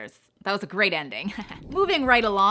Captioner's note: laughs